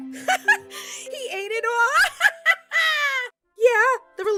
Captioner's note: laughs